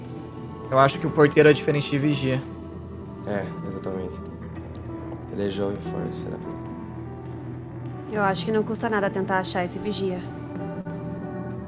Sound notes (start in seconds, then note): 4.4 murmurs